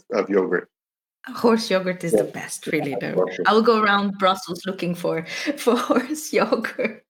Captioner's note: laughs